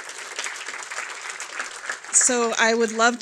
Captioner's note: applause